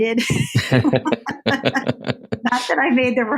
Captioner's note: laugh